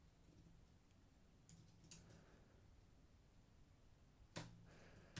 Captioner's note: mouse clicking